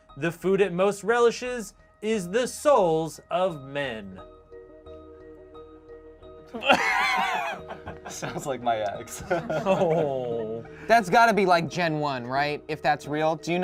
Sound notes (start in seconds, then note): 6.5 laughs